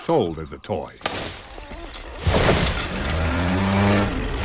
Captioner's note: engine